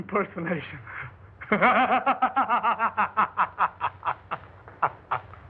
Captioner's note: laughing wildly